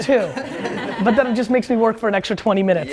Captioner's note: laughs